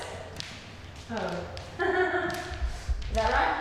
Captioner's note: laughing